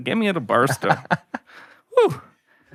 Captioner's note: laughing